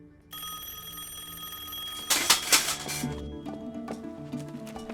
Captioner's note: telephone rings